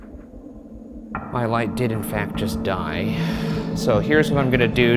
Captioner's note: sighing